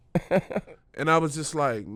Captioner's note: laughing